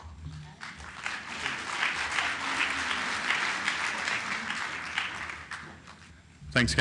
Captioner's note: clapping